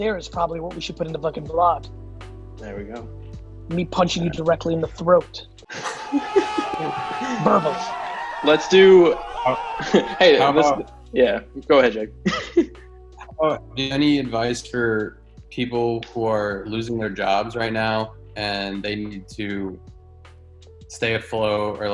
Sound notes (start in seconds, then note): 5.7 laughs; 5.7 crowd cheering; 12.2 laughs